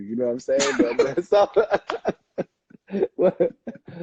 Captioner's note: laughing